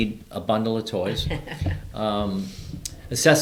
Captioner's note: laughing